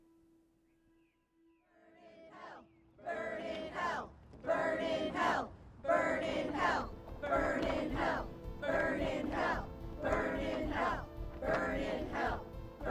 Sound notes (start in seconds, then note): 1.4 chanting